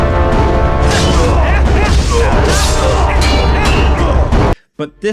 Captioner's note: Ganon and Link grunting; attack clinking